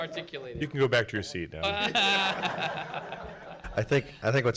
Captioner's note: audience laughs